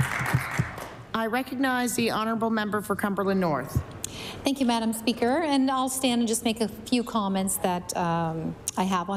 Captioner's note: applause